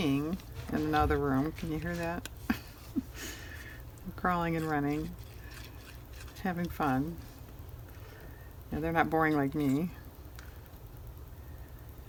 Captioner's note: laughs